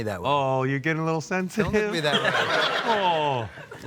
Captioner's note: audience laughs